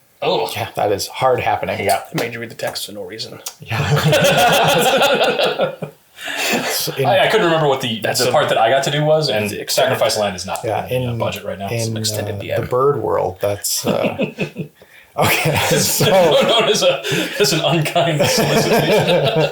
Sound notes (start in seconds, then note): 3.6 laughs